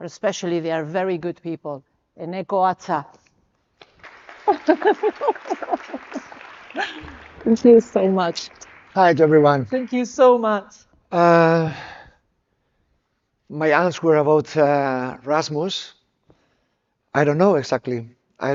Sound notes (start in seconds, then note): 3.8 audience clapping; 4.4 chuckles